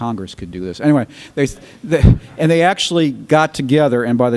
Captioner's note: laughter